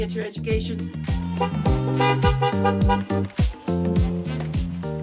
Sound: cars honk

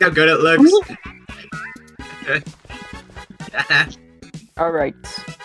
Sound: dying of laughter

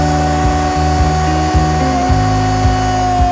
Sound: grinder tool grinding

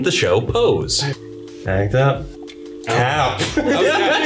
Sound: laughs

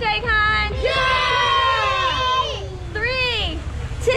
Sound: kids cheering

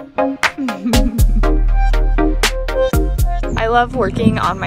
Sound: giggle

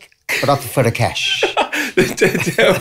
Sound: laughter

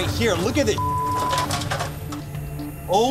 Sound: beeping

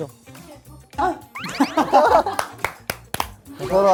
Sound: thehehehe

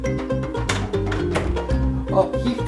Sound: door falls open

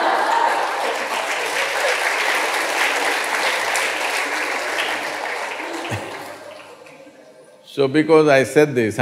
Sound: laughter/Applause

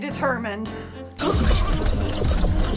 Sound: sci-fi buzzing

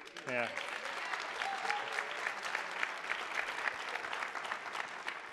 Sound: attendees applauding

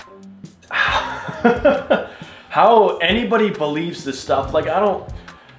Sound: laughs

